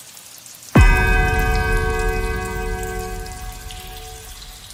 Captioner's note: eigth bell